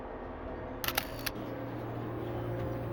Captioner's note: click